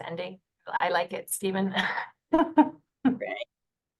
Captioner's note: chuckles